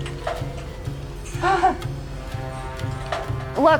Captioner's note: nervous haha